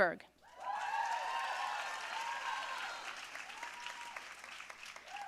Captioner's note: audience cheering and applauding